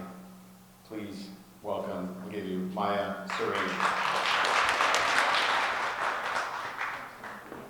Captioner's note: audience applause